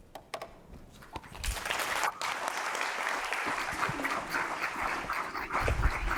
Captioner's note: audience applauding